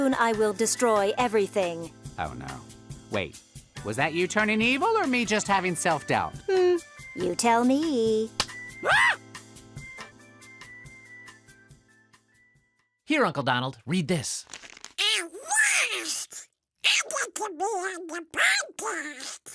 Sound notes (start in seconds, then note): 8.3 slap; 11.9 shriek